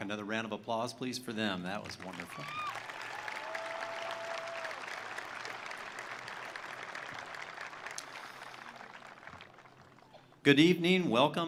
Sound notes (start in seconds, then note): 1.8 attendees applauding; 2.0 attendees cheering